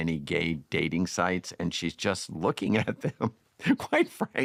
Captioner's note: chuckling